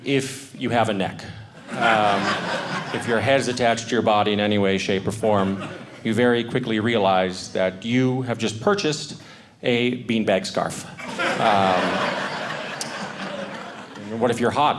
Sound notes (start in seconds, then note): 10.9 audience laughing